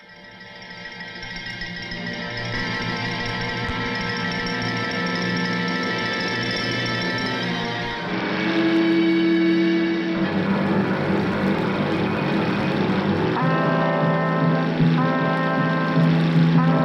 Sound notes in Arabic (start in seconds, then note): 0.2 موسيقى متوترة; 7.3 هدير محرك القارب